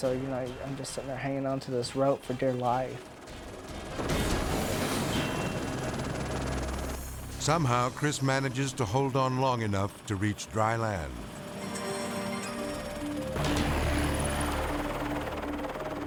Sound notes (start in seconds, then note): 3.2 dramatic music; 3.5 helicopter whirring; 13.0 dramatic music